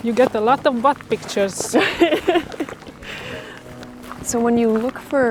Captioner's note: Aislinn laughs